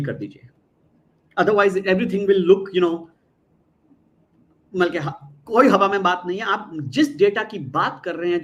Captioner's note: non-english speech